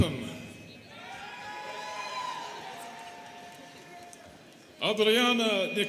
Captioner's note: students cheering